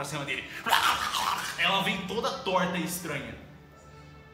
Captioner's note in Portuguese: grunhidos